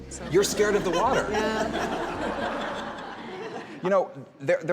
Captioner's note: crowd chuckles